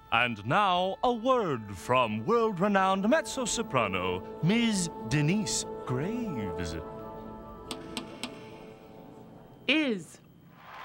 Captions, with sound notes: AND NOW A WORD FROM WORLD-RENOWNED MEZZO-SOPRANO MS. DENYCE GRAVES. ( baton taps music stand ) IS.